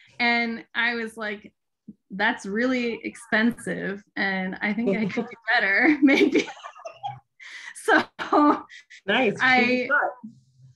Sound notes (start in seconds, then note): 6.3 giggling